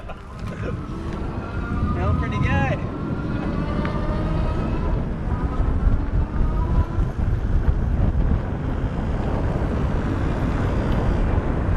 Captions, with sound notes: (both laugh) (wind rushes) Feels pretty good! (electric motor revs up) (wind rushes loudly)